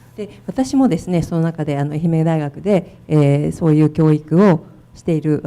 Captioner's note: speaking foreign language